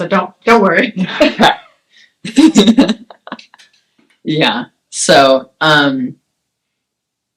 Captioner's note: laughs